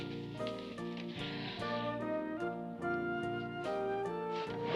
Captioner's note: sighs